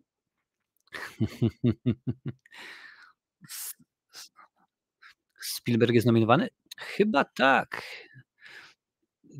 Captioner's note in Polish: śmiech